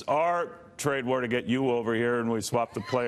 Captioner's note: laughter